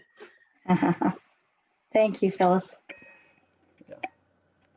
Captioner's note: laughs